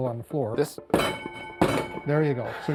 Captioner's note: bell rings twice